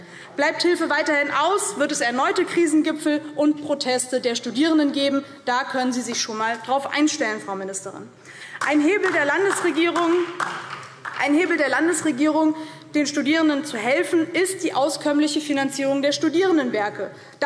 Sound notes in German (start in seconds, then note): 8.5 Beifall DIE LINKE